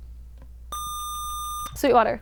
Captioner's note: buzzer